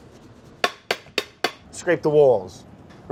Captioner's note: spoon tapping